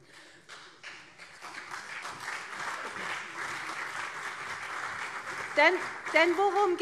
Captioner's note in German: Beifall CDU und SPD